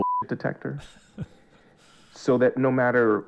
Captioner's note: laughter